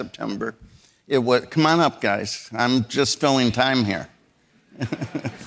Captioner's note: audience laughing; laughs